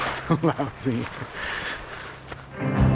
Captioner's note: laughs